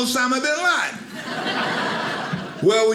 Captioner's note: audience laughing